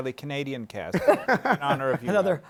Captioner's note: laughter